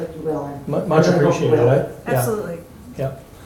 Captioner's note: murmurs